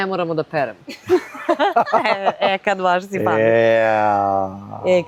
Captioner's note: laughter